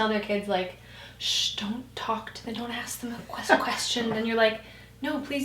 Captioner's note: hushing